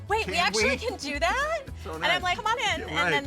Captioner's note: laughs